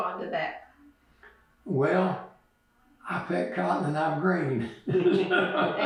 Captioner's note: laughs